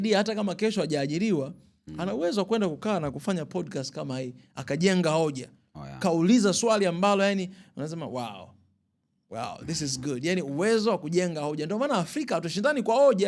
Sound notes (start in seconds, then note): none